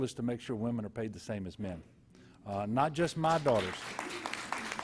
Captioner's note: applause